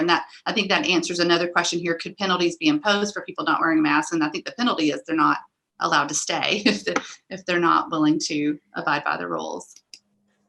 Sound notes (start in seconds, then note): 6.8 laughs